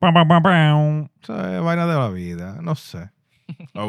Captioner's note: speaking Spanish